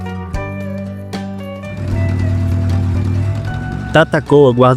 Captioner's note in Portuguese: Barulho de motor